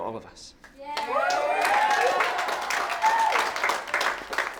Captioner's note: cheering